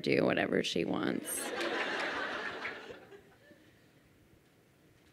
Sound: crowd laughing

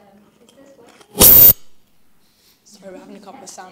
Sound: electronic interference blares

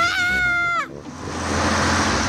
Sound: shrieks

